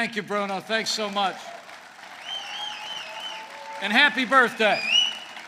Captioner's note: applause